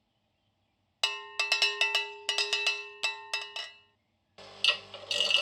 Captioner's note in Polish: blaszane dzwonienie